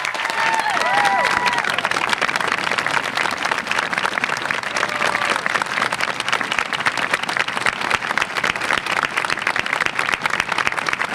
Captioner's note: applause